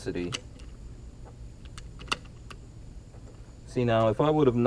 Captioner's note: clicking